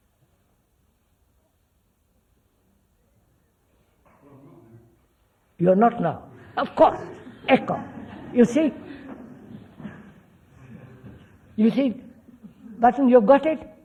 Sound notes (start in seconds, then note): 6.9 laughter